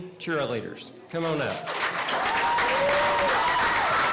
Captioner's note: applause